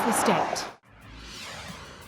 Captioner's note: vehicles whirring